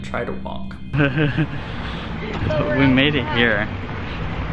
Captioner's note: laughing